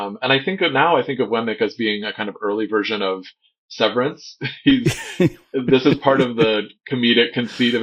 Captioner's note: laughter